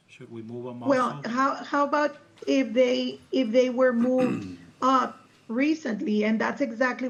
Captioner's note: clears throat